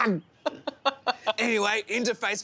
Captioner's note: laughing